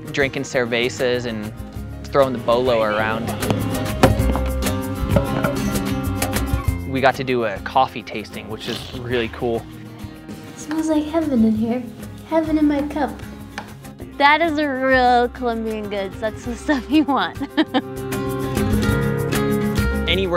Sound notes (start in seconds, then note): 3.1 ball hitting pole; 5.0 pole falling; 6.1 upbeat instrumental music; 8.5 slurping; 16.7 laughing; 18.4 upbeat instrumental music